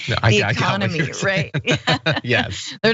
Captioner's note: laugh